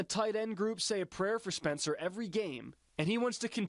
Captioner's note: football broadcast